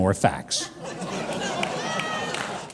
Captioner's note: audience laughing